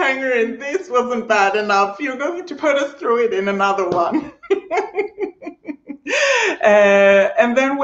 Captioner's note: laughing